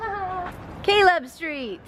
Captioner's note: laughs